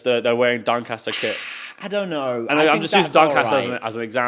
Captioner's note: exhales